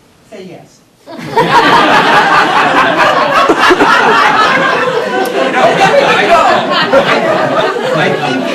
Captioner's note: laughter